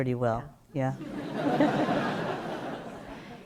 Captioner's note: laughter